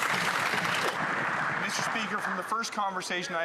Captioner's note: some Applause